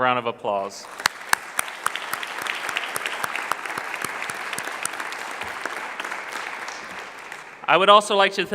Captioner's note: clapping